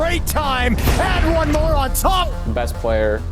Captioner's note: gunshot ringing out